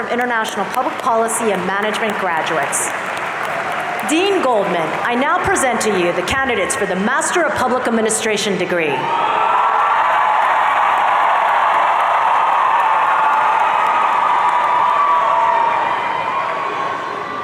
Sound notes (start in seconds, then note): 9.0 audience cheering